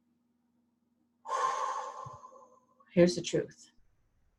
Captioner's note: exhaling